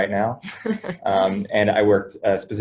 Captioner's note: laughs